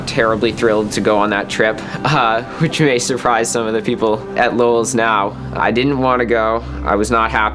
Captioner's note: chuckles